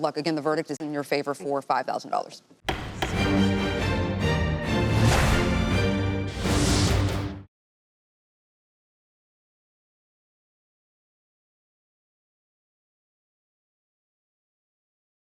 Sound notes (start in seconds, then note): 2.6 gavel bangs; 2.6 dramatic music